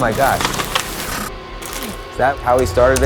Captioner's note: paper rustling